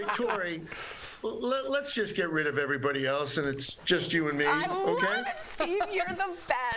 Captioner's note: laughter